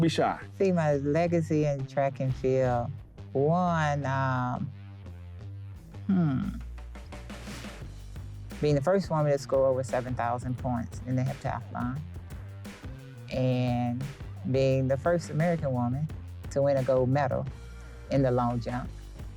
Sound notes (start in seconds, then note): 7.5 air whooshing